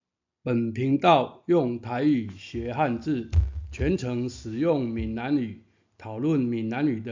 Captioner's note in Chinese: 台語